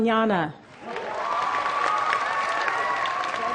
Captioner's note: applause